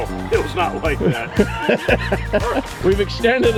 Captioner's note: laughing